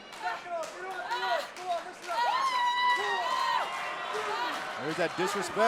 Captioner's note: crowd cheering